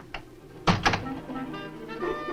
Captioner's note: door closes; suspenseful orchestral music